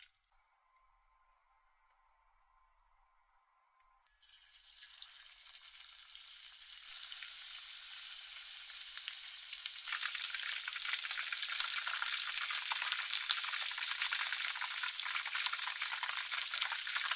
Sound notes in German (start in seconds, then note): 11.5 braten asmr